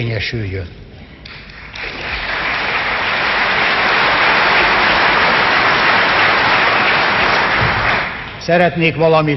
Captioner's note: applause